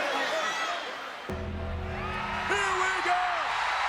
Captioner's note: bell tolls